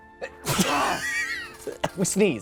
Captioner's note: sneezes